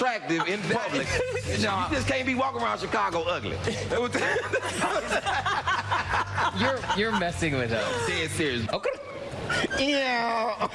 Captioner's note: laughter